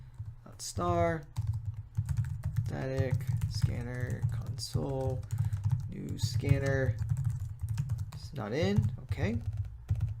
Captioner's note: typing